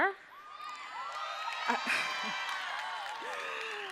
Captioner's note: cheering